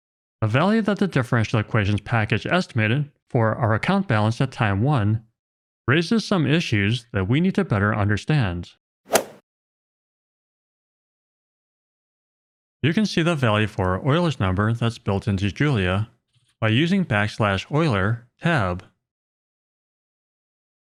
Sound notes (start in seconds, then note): 9.1 golf ball hit sound effect